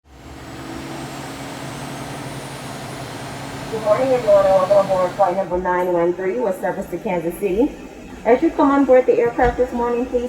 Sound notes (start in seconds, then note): 0.0 engines whirring